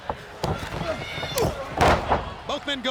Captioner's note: body thudding; footsteps plodding